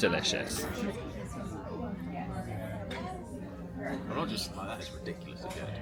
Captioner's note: people chatter in background